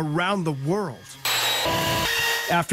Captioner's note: buzzing